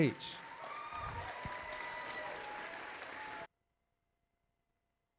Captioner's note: audience applauding